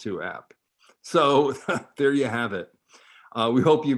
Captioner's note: chuckles